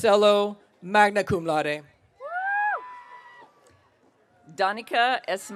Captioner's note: audience cheering